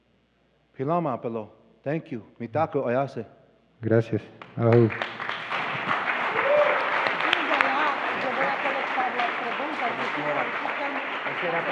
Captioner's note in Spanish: Aplausos